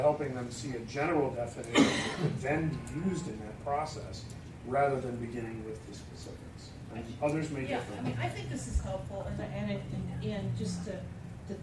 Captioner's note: coughing